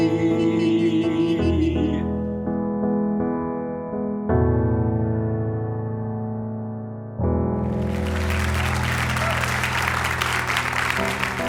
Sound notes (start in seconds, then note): 7.6 applause